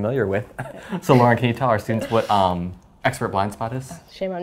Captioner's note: laugh